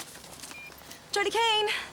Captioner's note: phone beeps